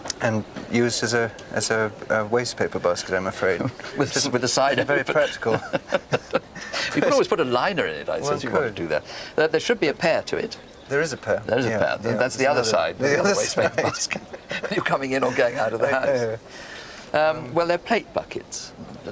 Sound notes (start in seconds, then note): 5.1 both laugh